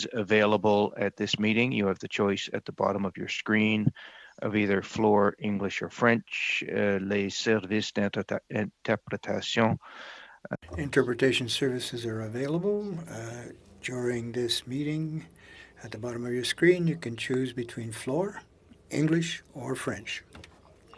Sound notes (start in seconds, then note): 12.8 speaking French